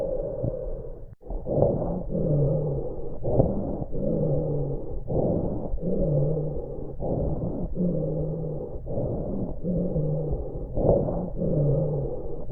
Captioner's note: COPD Patients lung sound